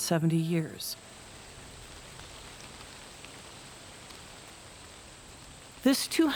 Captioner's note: wind rustling